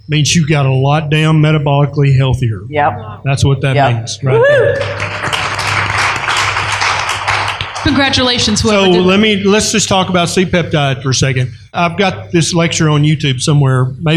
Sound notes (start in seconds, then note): 4.7 applause